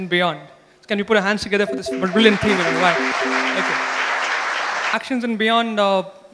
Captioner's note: applause